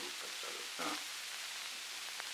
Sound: Murrow, mumbling

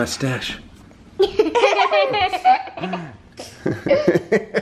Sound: laughing

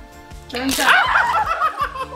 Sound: yelling; laughing

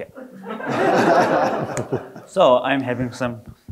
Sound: all laughing

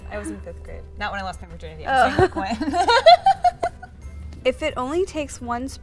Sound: laughs; laughs

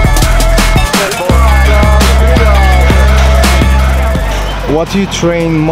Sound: men murmuring

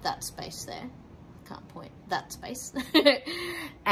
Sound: laughs

